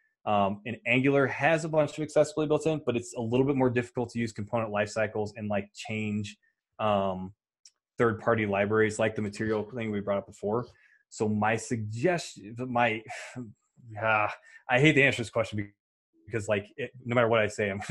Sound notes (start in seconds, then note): 13.0 sighs